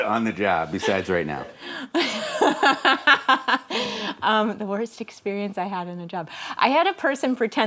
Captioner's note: laughs